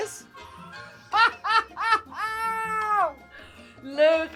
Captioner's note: laughs